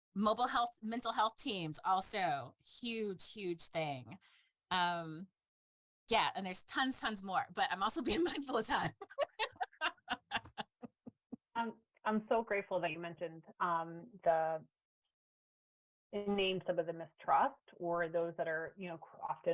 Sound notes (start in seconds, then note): 8.0 laughs